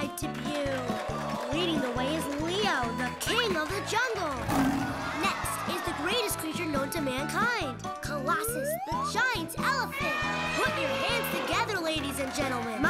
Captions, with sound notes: IS MAKING ITS WORLDWIDE DEBUT. THE KING OF THE JUNGLE. - [roars] KNOWN TO MANKIND, COLOSSUS THE GIANT ELEPHANT. LADIES AND GENTLEMEN.